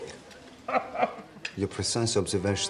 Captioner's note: <i> chortles</i>